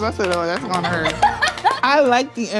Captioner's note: laughing